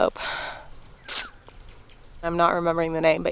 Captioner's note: sighing thoughtfully